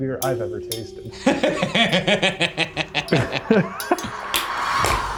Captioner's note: laughing